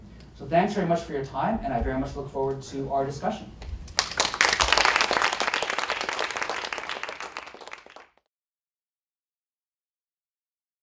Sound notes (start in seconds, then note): 3.9 applause